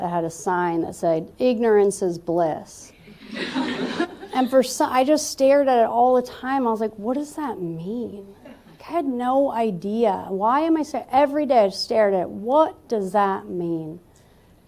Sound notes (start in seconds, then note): 3.2 laughter